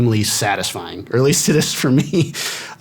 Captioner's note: laughing